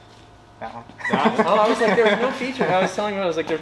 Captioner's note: laughing